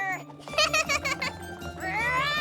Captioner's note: laughs